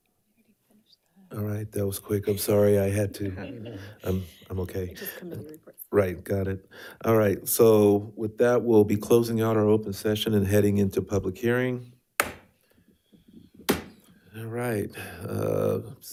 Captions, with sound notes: - I finish that. - Alright, that was quick. I'm sorry, I had to, (members laughs) I'm okay. - Just Committee Reports. - Right, got it. Alright, so with that, we'll be closing out our open session and heading into public hearing. (gavel tapping) Alright,